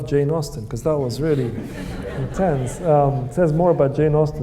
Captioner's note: audience laughing